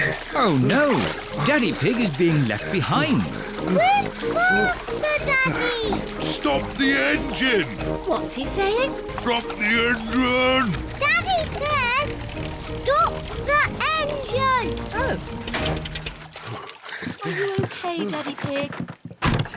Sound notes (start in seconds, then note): 0.0 panting; 9.3 splutters